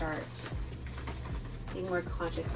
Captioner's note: packaging rustling